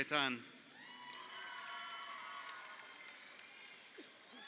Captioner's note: crowd cheering